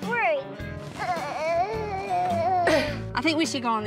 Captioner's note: both grunting